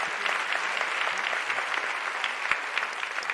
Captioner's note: applause